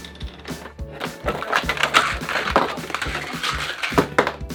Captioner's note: rattling